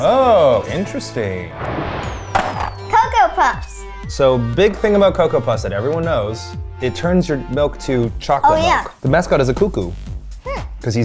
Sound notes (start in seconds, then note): 2.0 animated explosion booming; 2.3 cereal box thudding